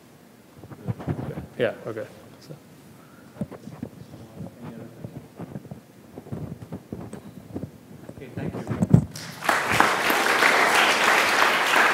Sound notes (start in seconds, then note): 9.1 applause